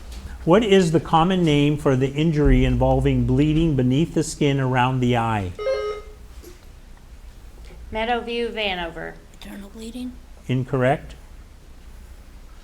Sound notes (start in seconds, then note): 5.5 buzzer ringing